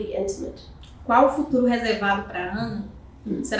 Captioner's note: speaking portuguese